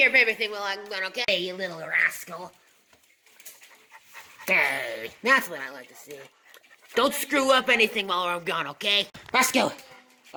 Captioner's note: starts panting